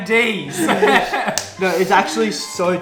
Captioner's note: laughs